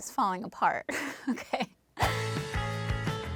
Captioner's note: chuckles; upbeat music